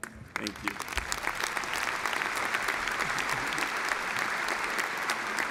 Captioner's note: audience applause